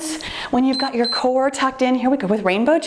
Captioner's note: timer beeps